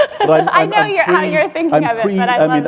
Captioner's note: laughing